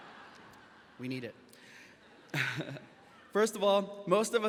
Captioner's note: graduates laughing; chuckles